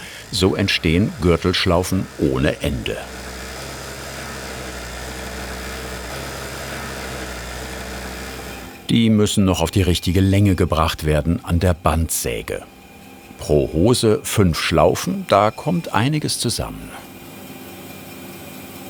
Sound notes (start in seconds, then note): 3.3 whirring